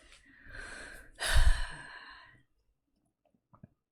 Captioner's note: sighs